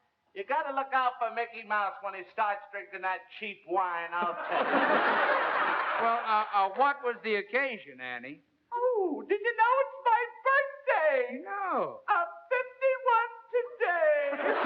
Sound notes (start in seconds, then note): 4.2 laughter